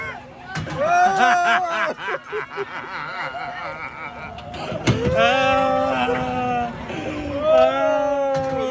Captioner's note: more laughing